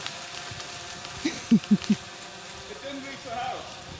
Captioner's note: laughing